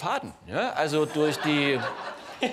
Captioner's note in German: Lachen im Publikum